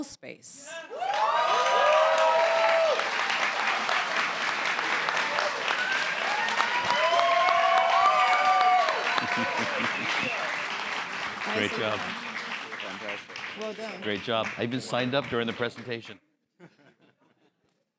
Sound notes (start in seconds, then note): 0.8 applause